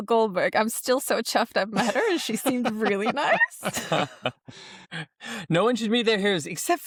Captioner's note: laughter